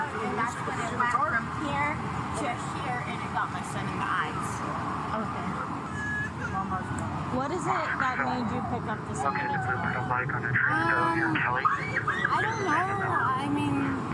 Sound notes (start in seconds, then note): 9.6 radio chatter